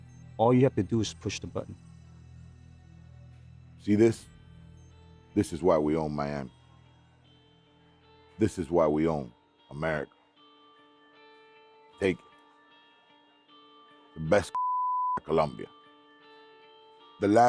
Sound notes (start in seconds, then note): none